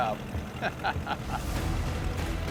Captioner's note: laughs